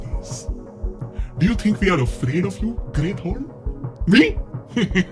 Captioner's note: hehehe